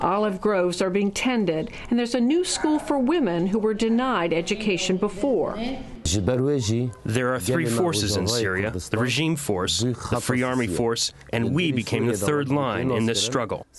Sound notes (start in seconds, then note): 7.1 through translator